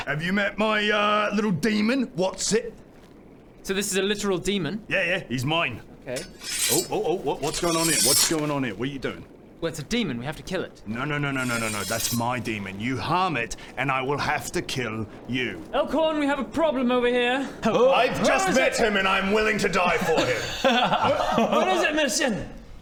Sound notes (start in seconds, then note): 6.1 schinnng; 6.1 schiinng; 11.4 schinnnngg